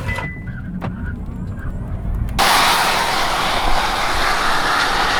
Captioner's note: car accelerates